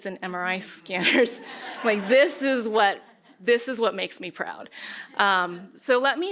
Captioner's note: laughter